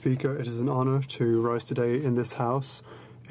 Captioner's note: speaking French